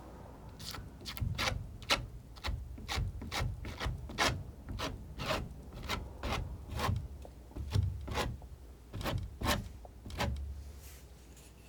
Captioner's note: scratching